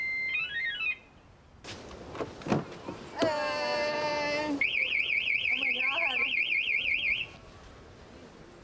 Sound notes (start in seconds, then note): 4.6 alarm ringing